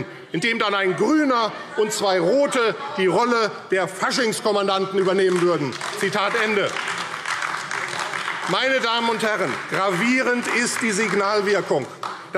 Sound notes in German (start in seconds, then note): 4.9 Beifall AfD